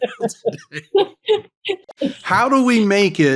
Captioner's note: laughing